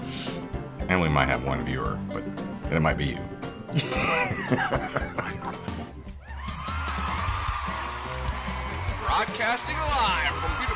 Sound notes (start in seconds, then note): 3.7 laughing; 6.1 crowd cheering